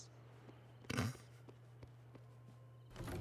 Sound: snorts

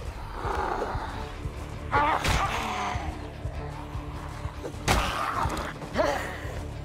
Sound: animal roaring; blows thudding

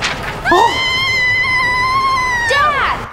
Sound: scream

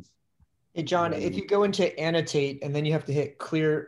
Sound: sharp Voice

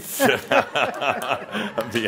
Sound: Adamus chuckles

